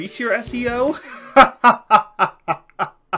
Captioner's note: maniacal laughing